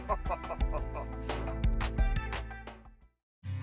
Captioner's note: laughter